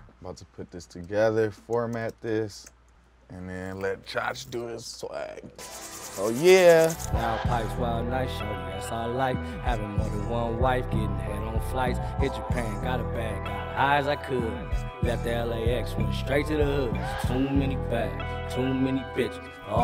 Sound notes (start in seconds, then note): 5.5 hands rubbing